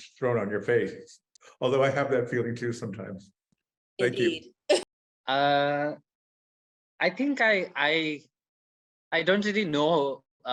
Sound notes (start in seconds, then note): 6.0 chuckles